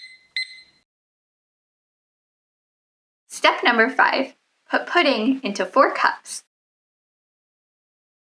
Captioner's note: timer beeping